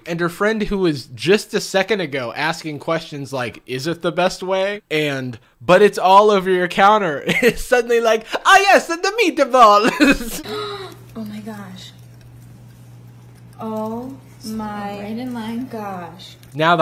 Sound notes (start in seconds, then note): 10.2 gasps